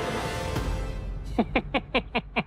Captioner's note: laughs